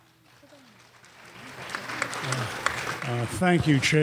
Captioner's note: applause